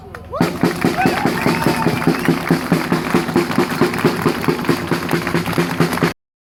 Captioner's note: drumming applause